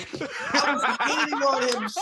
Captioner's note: desus and mero laugh